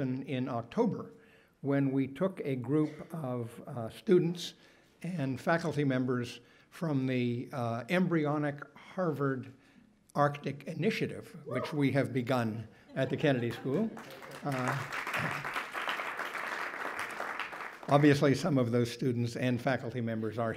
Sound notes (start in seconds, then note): 13.2 audience applaud